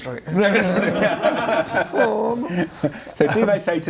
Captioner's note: laughs